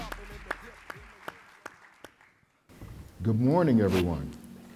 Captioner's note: audience applauding